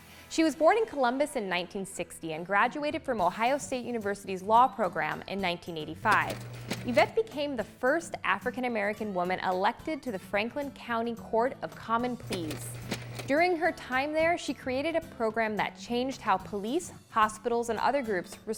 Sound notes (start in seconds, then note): none